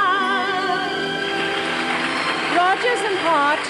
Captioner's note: applause